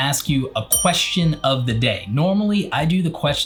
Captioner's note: bell dings